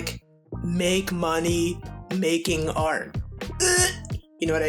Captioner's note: eugh!